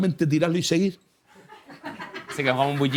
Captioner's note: laughter